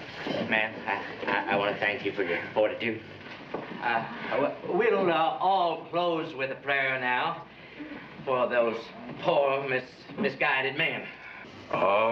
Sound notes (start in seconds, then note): none